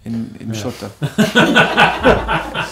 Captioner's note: laughter!